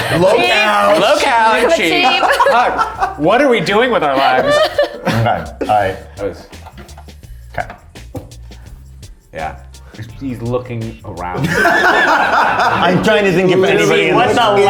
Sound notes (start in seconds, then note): 0.0 laughs; 11.3 all laughing